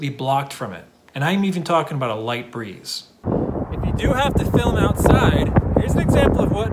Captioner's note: sound of wind